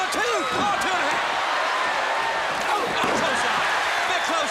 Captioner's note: crowd cheering